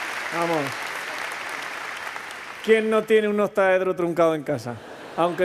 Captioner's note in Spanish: Risas